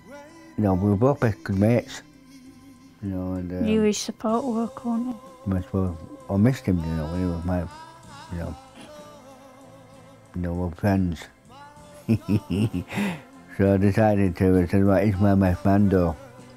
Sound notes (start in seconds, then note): 12.0 laughs